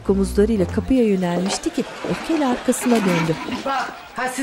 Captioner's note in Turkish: Kıkırdama sesleri